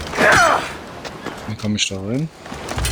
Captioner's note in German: stöhnen